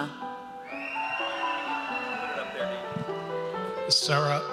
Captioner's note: audience cheers